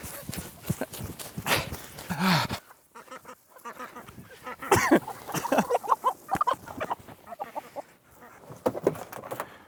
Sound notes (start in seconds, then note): 2.9 chicken clucking; 4.7 man laughing